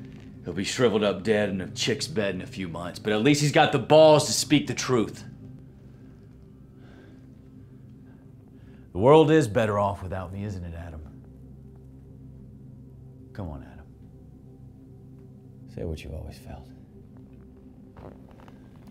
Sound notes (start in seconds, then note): none